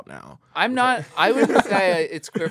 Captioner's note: laughs